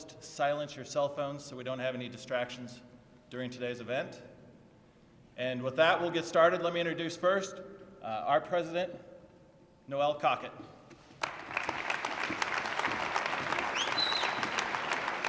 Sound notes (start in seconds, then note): 11.2 applause